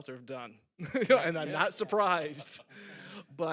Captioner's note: laughs